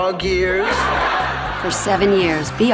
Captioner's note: laughs